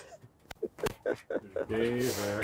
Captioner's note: laughing